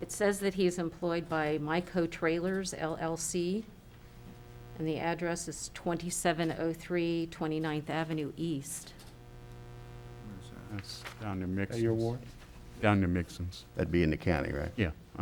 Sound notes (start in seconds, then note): 10.6 faintly speaking